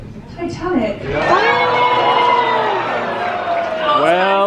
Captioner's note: audience cheering